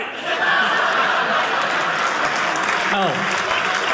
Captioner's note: audience laughing